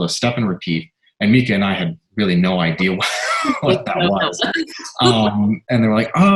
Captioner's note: laughter